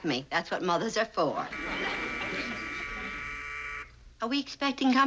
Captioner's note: buzzer rings